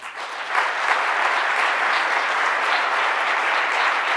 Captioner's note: audience applauding